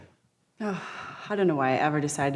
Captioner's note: sighs